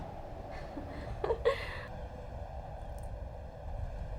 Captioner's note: laughing